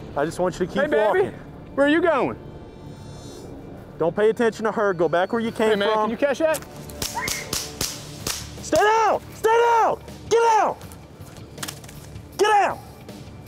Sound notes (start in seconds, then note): 7.0 gunshots